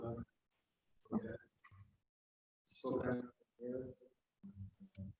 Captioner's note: people talking quietly